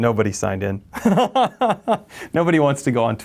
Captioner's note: laughs